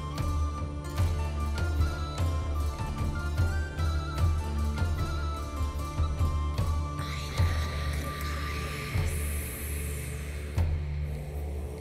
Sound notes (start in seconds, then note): 7.7 whispering; 9.7 still whispering